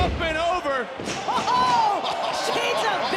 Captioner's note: people laughing